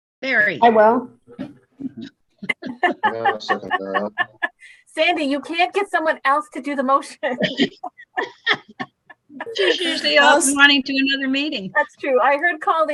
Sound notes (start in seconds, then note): 2.4 laughing; 7.1 group laughing